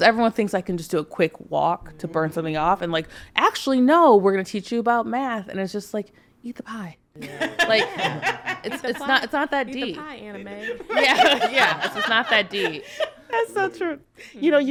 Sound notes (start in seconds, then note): 7.2 podcasters laughing; 11.3 laughs